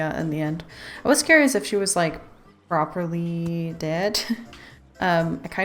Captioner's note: laughs